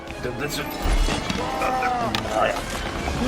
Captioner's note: scream